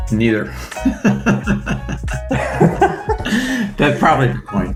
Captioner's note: both laughing